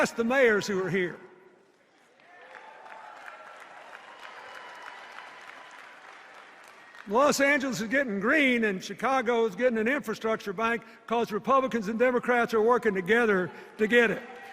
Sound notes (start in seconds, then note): 2.2 isolated cheers